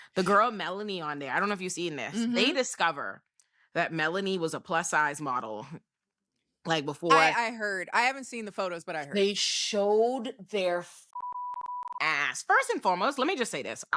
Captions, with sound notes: The girl Melanie on there, I don't know if you've seen this. They discover that Melanie was a plus size model. Like before I heard, I haven't seen the photos, but I heard. They showed their (beep) ass. First and foremost, let me just say this.